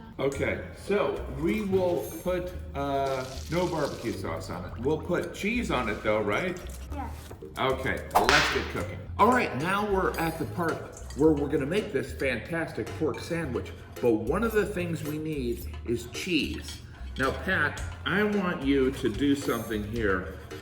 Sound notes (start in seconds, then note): 8.1 whip snapping